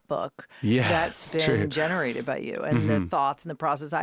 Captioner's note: laughing